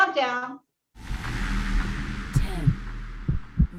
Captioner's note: electronic swipe